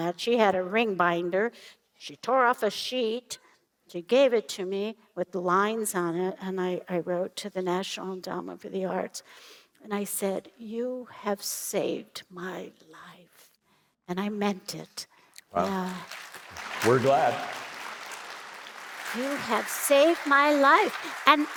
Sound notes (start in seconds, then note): 15.5 applause